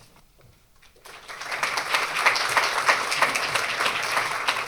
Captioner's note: applause